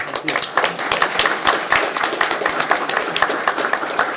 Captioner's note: crowd claps